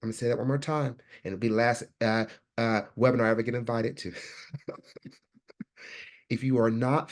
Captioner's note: laughs